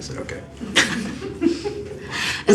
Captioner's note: laughs